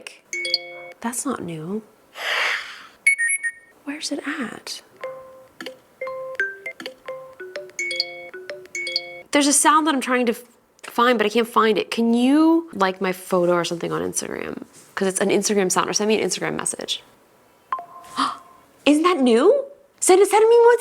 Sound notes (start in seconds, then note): 0.3 whimsical chime phone alert; 3.1 whimsical chime phone alert; 6.0 phone alerts beeping